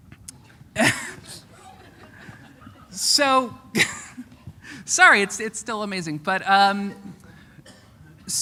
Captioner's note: chuckle; chuckle